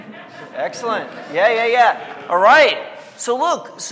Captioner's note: audience laughing